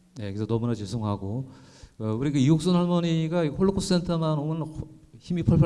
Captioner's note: speaking in foreign language